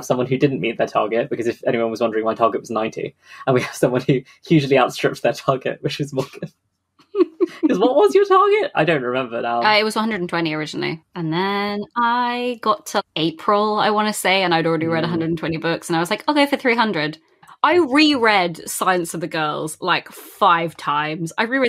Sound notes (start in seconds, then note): 4.5 laughing; 4.5 laughs